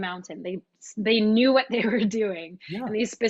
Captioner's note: chuckles